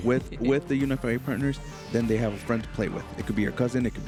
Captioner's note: none